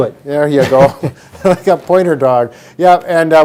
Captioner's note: laughing